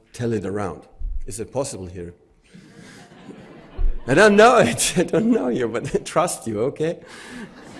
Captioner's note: audience laughs; audience laughs